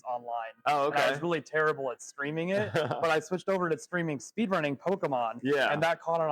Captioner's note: laughs